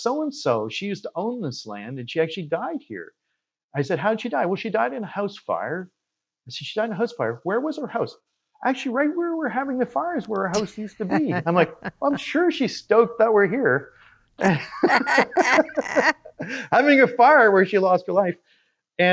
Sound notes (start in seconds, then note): 14.4 both laughing